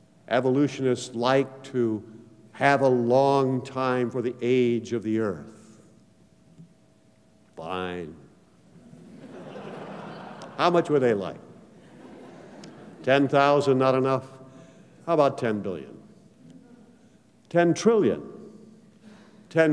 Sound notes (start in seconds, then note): 8.8 laughter